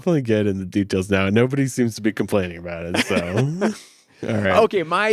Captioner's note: laughs